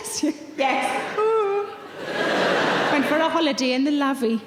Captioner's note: laughing